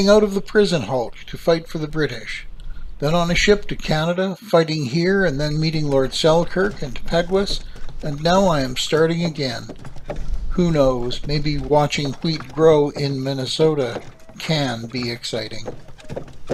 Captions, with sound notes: out of the prison hulk to fight for the British, then on a ship to Canada, fighting here and then meeting Lord Selkirk and Peguis and now I am starting again. Who knows? [cart wheels rolling] Maybe watching wheat grow in Minnesota can be exciting?